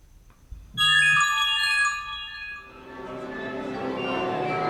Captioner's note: phone jingle